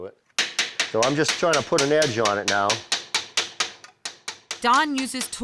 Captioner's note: hammering